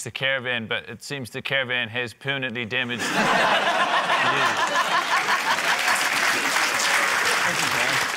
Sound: laughter, applause

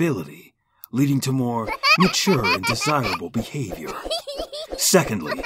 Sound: laughing

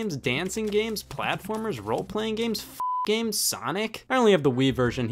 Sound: beep

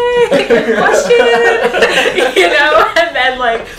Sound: all laughing

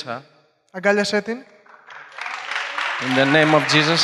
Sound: applause

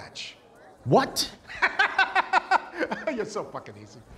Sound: laughs

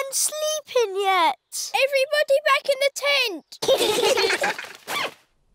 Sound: all giggling

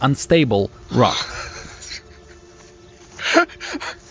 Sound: laughing

